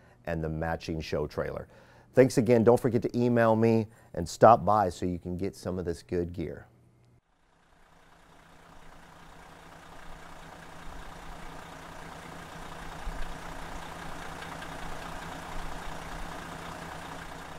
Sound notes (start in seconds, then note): 7.6 car engine